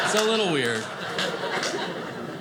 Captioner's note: audience laughing